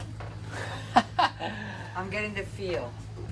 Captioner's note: laughing